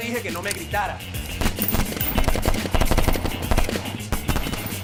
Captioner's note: sounds of gun play, bullets flying